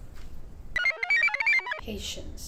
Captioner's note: computer chirps